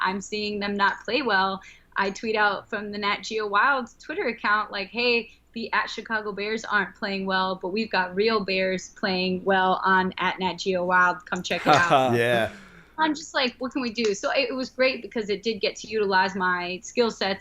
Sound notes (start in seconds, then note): 11.5 chuckle